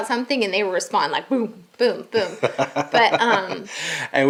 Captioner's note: laughing